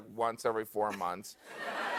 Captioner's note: laughter